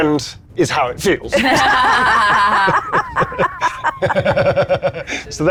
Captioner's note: group laughing